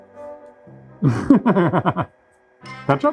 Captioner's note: laughing